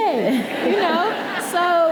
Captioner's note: audience laughing